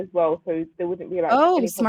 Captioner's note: chatter